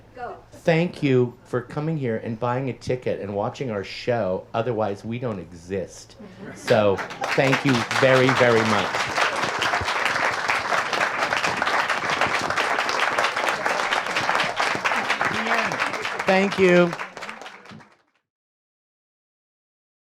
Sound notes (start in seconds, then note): 9.6 audience applauds